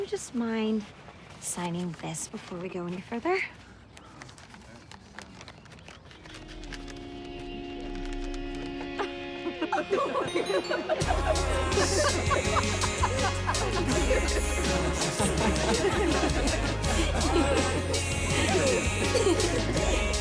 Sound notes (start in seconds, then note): 3.9 wheezing; 8.8 women start laughing